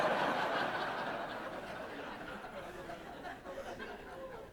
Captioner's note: audience laughs